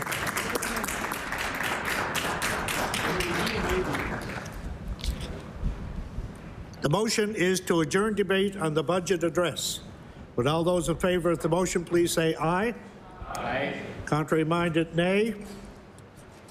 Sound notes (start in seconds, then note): 0.0 applause